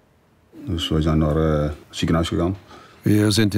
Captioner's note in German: Er spricht holländisch